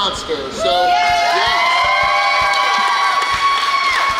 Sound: crowd cheers; crowd clapping

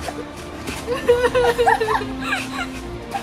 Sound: crying

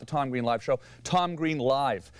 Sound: none

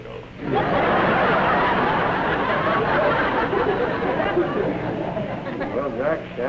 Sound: laughter

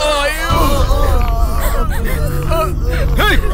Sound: crying

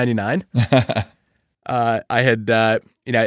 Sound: laughing

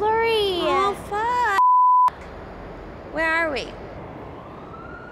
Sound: siren

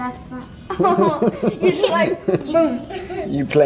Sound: family laughing

